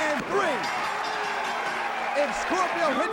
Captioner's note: bell ringing